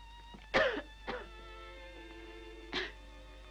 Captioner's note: coughs